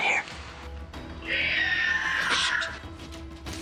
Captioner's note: screeching